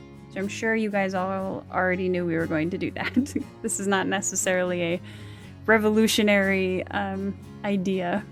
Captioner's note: laughs